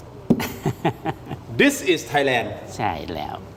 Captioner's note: laughs